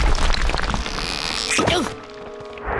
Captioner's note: groaning